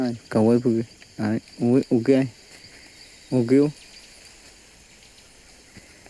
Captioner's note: speaking in foreign language